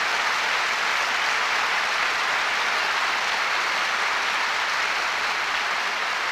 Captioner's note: applause continues